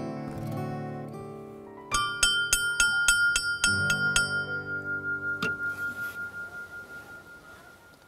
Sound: bell ringing

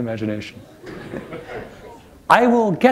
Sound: laughter

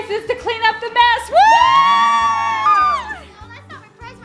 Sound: all cheering

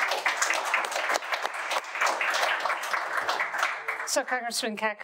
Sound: audience applauding

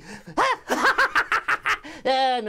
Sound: laughs

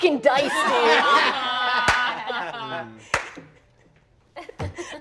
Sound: all laughing

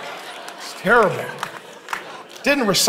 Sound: congregation laughing; congregation clapping

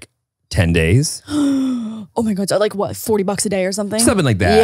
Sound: gasps

